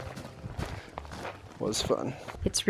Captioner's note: footsteps thumping